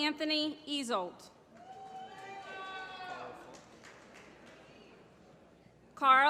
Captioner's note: applause